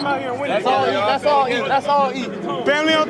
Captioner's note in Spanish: charla de los jugadores